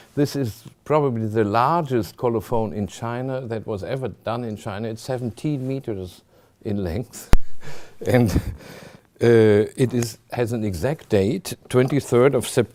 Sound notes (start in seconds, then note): 7.0 chuckling